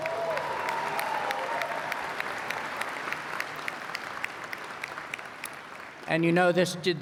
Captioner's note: applause